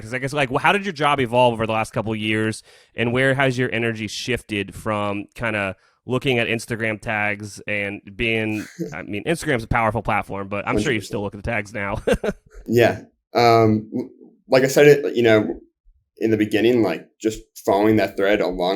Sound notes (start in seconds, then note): 12.3 laughs